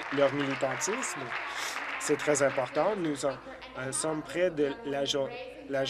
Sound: applause

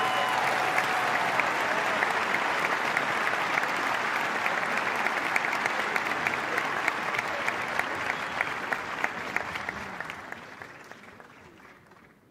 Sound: applause

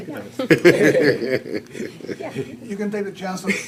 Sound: board members laughing

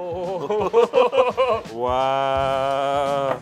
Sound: laughing

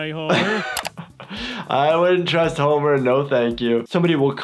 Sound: chuckles

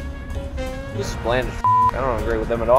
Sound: beep

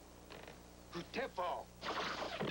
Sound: speaking Sioux

